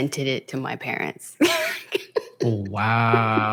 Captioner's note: laughs